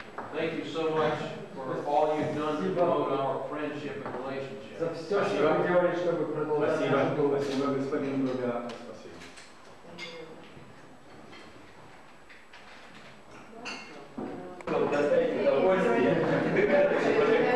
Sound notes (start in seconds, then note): 9.3 non-english speech; 13.8 chatter